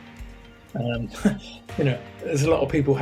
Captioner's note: chuckles